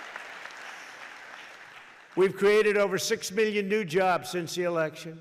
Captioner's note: applause